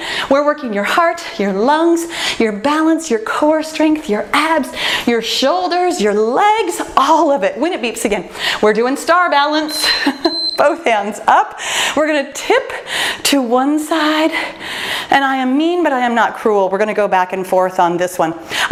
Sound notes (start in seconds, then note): 9.6 timer beeps